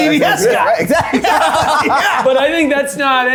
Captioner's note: everyone laughing